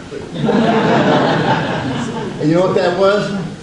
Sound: audience laughs

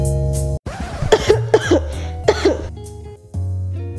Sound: light music; DJ scratch; coughing; light music

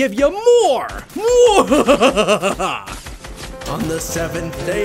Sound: sinister laughter

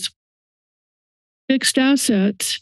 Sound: silence

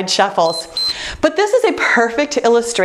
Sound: timer beeps

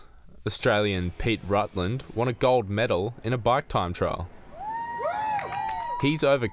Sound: cheering

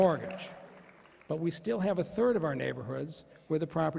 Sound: applause

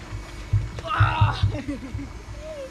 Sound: groans; chuckles

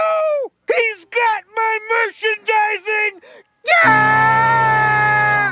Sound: screams

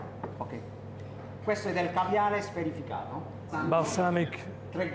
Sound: speaking Italian

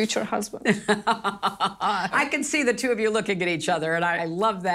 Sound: laughs

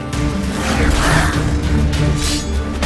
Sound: groan; thunderous boom

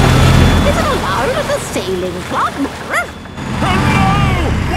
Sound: barks

